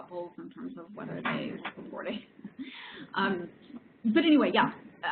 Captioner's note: laughs